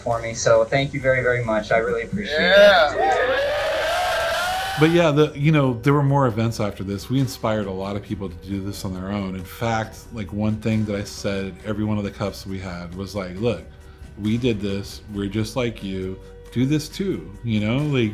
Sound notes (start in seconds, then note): 2.5 crowd applauding